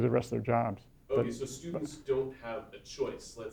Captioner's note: voiceover